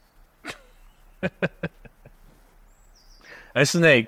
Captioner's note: Perez chuckles